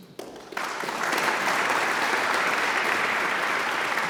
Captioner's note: audience applauds